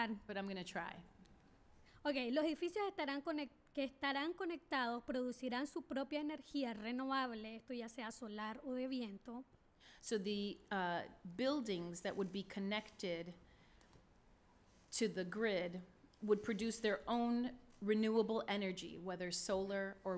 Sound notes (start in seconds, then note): 2.0 speaking spanish